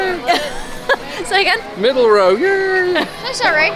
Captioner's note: laughs